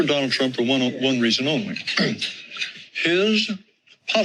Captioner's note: clears throat